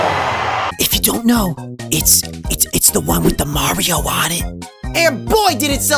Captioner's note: whispering